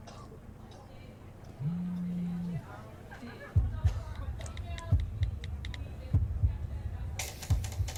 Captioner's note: sound of own heartbeat; people coughing, phones vibrating; clicking, tapping, talking